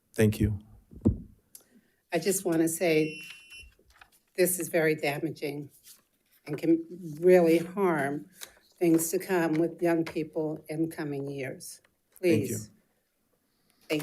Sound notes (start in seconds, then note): 2.9 timer beeps